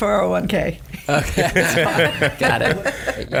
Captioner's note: laughs